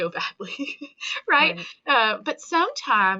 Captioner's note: chuckling